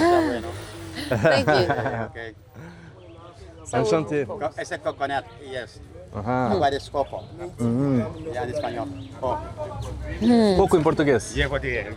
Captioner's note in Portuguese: risadas